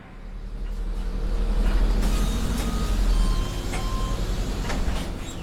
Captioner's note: bus engine